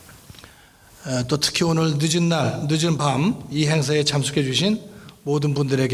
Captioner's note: speaking in foreign language